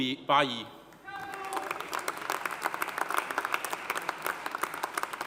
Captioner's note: audience applauding